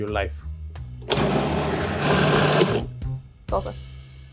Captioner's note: machine buzzing